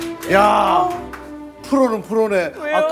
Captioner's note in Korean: 감탄